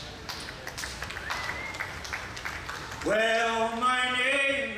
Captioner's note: audience applauds